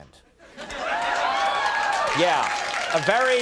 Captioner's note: audience cheering